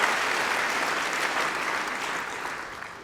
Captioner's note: applause